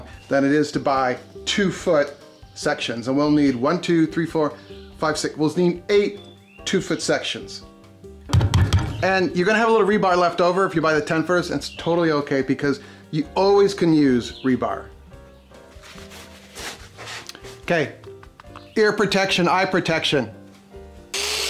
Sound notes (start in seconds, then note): 15.4 gloves scraping on hand